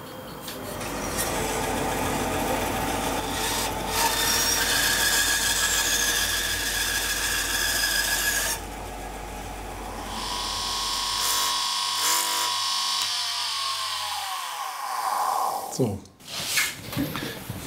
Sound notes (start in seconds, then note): 6.2 sound of cutting; 11.3 slight grinding